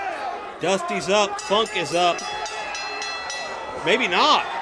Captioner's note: bell rings